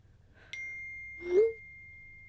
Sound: ping

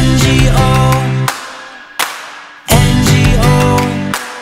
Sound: claps twice; claps twice

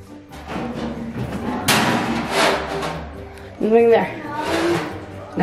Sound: popcorn machine clangs

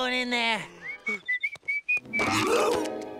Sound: whistling

